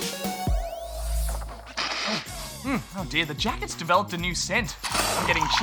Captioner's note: sniffs